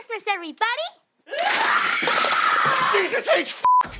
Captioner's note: screaming